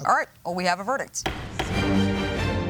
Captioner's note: gavel banging; intense music